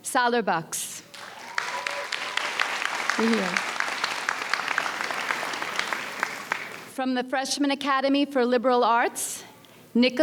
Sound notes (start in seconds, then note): 1.1 audience applauds